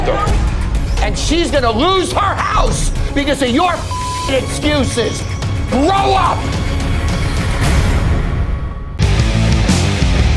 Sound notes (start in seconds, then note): 3.8 beep; 6.7 intense music